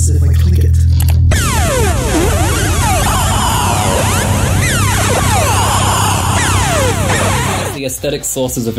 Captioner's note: clicking sound effect; sci-fi travel sounds